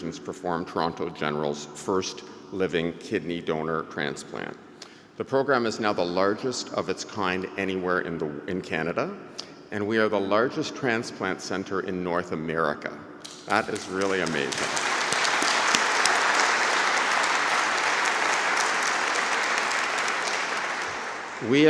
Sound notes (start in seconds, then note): 14.9 applause